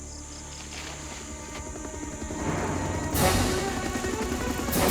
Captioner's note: helicopter Whirring